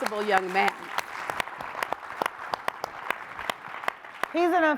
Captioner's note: audience applauds